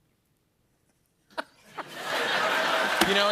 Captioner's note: laughter